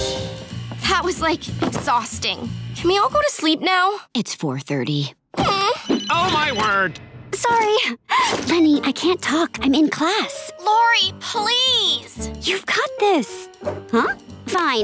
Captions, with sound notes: That was, like, exhausting. Can we all go to sleep now? It's 4:30. [phone ringing] Oh, my word! Sorry. Leni, I can't talk. I'm in class. Lori, please! You've got this! Huh? Fine.